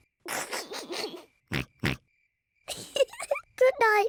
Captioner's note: oinks; snickers and oinks; giggles